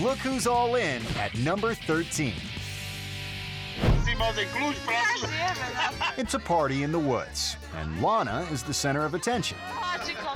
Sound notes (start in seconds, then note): 3.8 air whoosh; 3.9 rock guitar music; 5.5 people speaking in a foreign language